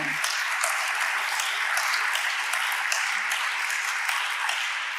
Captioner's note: audience applauding